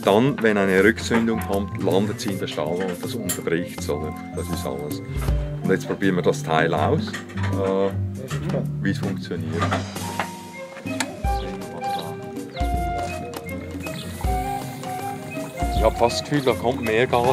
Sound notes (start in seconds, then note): 13.4 gas flows with audible hiss